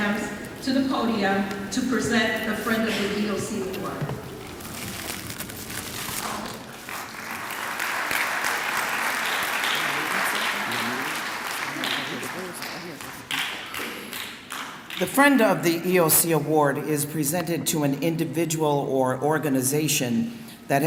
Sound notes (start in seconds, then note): 8.2 clapping